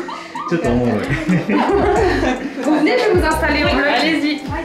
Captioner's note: laughs